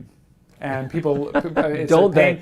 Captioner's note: laugh